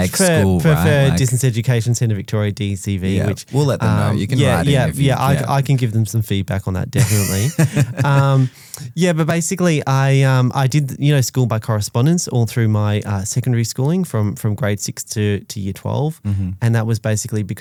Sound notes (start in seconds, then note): 7.0 laughs